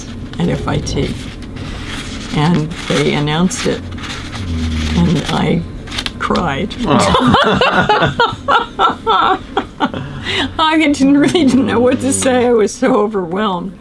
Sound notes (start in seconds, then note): 6.9 laughter